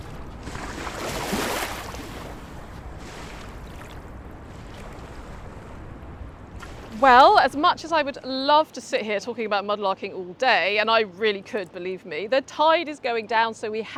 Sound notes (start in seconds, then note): 1.6 waves splashing ashore